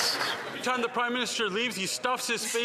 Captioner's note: some Applause